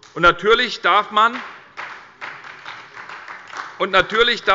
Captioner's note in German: Beifall bei der SPD